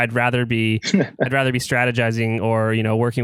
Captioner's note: laughs